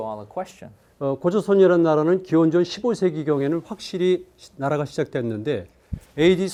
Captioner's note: speaking in Korean